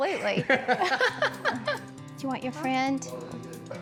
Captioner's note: laughter